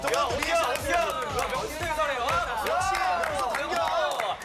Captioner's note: A round of applause